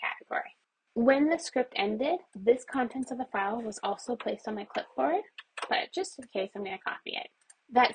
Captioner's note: mouse clicks